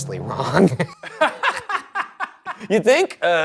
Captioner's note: Ryan and Shane laughing